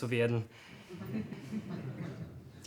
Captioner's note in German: verhaltenes Gelächter